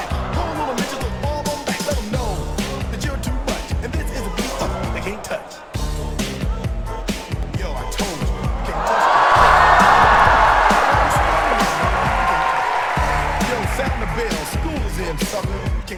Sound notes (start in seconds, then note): 8.9 applause